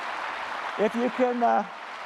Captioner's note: applause